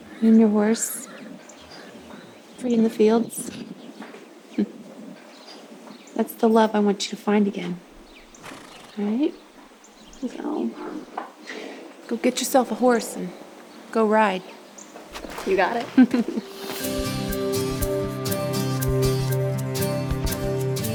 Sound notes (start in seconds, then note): 15.8 Bonnie chuckles; 16.3 uplifting music